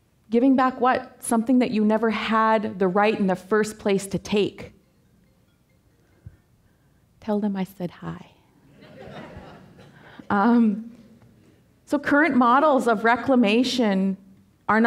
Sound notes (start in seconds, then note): 5.1 cell phone ringing; 8.7 audience laughing